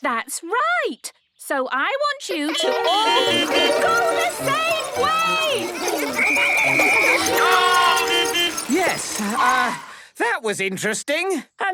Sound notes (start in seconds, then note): 2.5 beeping; 6.1 whistle blowing; 8.1 beeping